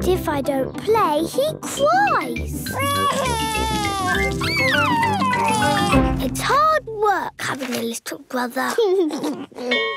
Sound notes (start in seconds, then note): 2.7 crying; 8.7 giggles; 9.8 bell ringing